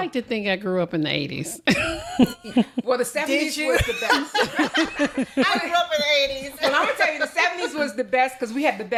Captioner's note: laughter